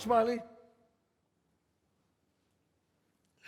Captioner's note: chatter stops